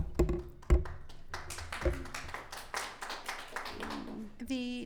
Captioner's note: audience clapping